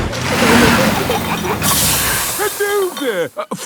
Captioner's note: peppa and george giggling; air hisses